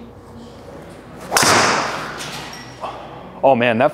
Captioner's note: club whumps